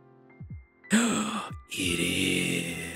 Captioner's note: gasps